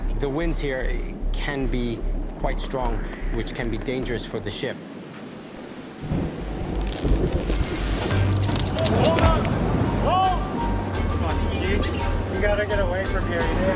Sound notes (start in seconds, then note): 8.2 rope tightening sounds; 9.9 crew yelling